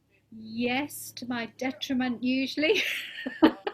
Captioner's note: laughing